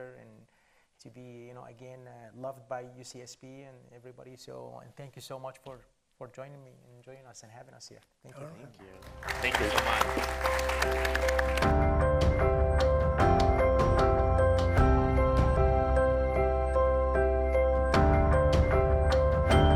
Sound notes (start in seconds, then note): 8.9 audience applauds; 11.9 cheerful music